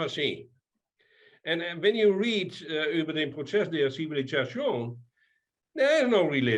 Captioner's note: speaking in foreign language